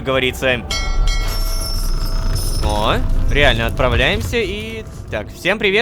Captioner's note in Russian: Звук корабельного колокола